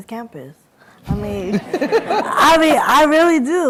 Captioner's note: laughter